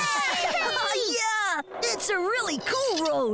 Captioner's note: laughing